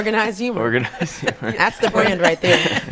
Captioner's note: all laughing